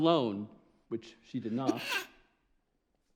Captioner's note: sneezes